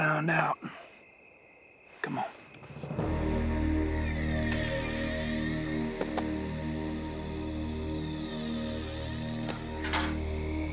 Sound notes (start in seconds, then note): 4.9 door opens; 8.2 suspense music